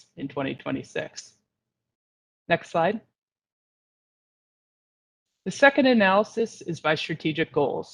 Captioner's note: A pause